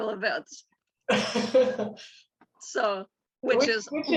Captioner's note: laughs